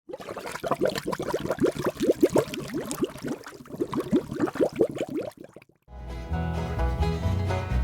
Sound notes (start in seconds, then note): 0.0 bubbling